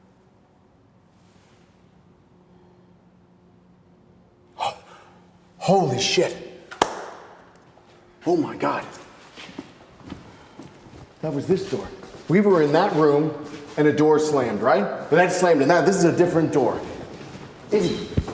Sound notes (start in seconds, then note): 4.5 Wes gasping; 6.7 Wes claps